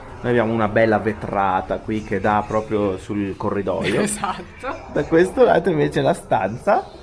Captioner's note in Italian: risate